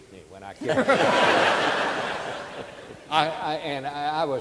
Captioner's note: audience laughing